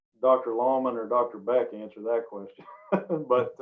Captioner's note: laughs